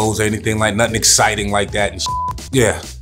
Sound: beeps

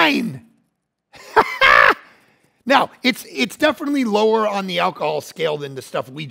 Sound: laughing

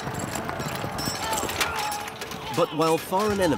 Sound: horse hooves thundering; weapons clanking; soldiers yelling

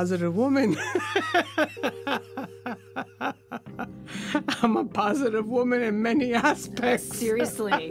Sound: laughs

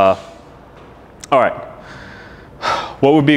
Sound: sighing

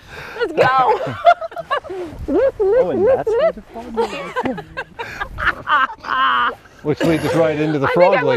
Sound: laughter

